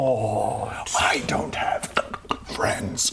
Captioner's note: ck-ck-ck; ck-ck-ck-ck